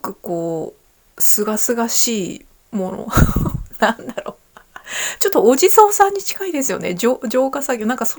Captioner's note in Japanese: 笑い